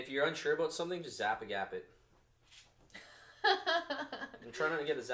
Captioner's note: laughs